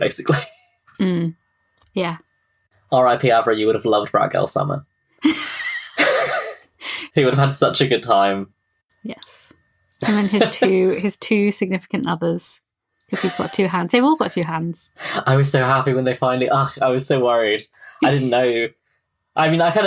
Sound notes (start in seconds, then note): 5.2 laughs; 6.0 laughing